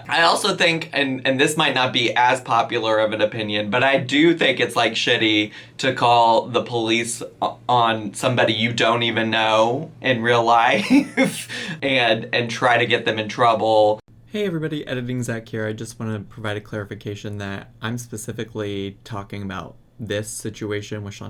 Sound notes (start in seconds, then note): 10.8 laughs